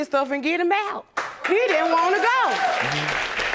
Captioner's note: audience applauding